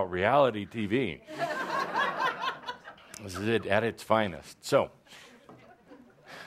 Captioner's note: laughter